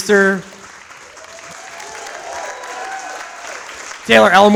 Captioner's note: audience applauds